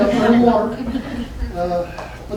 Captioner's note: laughter